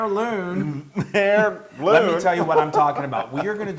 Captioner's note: laugh